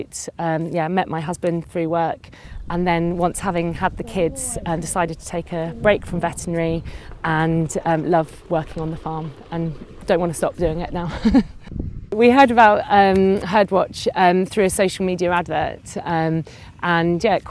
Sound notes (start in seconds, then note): 10.9 person laughing